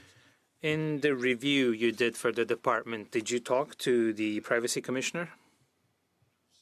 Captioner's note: speaking French